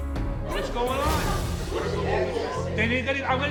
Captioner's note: audience murmuring